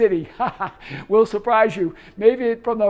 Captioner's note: laughing